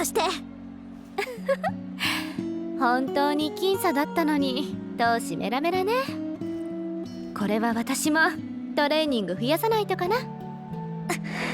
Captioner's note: chuckle